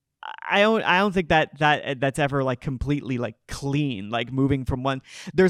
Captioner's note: none